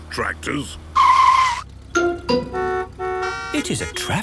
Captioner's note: tires screeching, horns honking